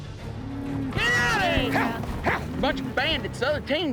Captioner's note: cattle mooing